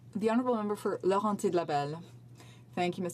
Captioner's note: speaking French